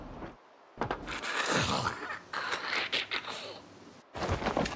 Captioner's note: zombie breathing